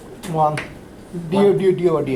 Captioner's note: voiceover